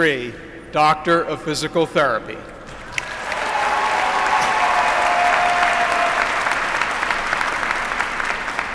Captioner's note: applause